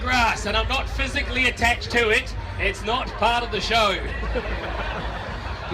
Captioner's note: crowd laughs